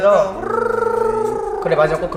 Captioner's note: mimicking a ringtone